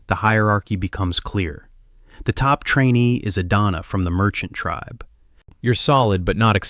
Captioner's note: thoughtful; sarcastic